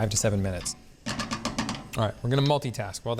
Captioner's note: spatula taps